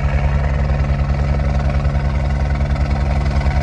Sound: helicopter whirs

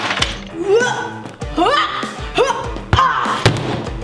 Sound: chessboard pieces crashing; grunts; garbage bin bangs

